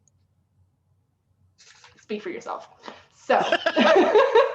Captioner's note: both laughing